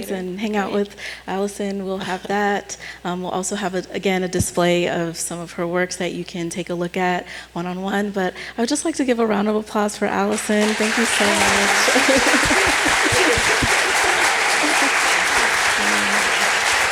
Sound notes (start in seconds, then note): 12.4 applause